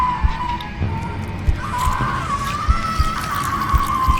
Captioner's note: heart squishing; Julie screaming; heart beating